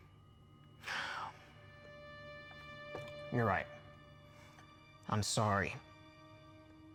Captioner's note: sighs